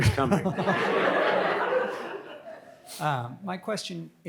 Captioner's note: audience laughs